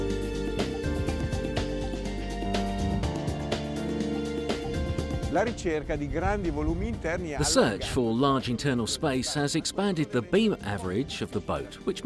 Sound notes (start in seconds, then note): 5.5 speaking foreign language